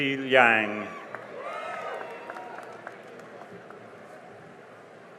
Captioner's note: cheering and applause